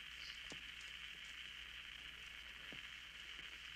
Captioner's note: static on radio